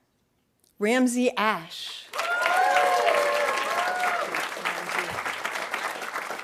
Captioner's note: audience applauding